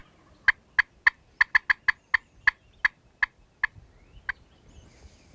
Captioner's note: turkey calling